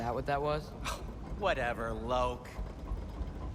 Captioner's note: scoff